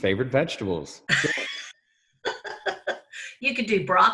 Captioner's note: both laugh